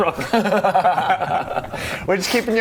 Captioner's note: tricksy laughter